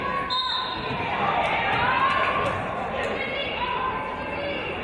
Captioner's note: referee's whistle